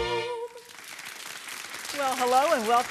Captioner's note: audience applauds